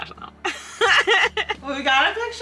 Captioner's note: laughing